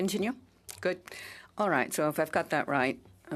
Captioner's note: speaking in French